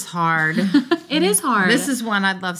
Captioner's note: laughs